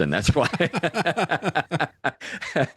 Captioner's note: both Laughing